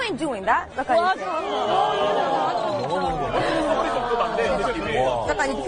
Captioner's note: crowd murmuring loudly; speaking foreign language